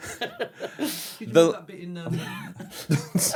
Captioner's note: laughing in tired